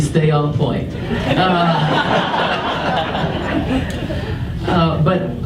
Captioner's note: audience laughs